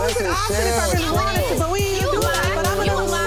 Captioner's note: people yelling at once